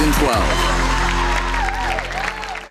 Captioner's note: applauding and cheering